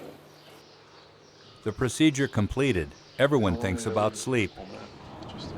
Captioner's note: voiceover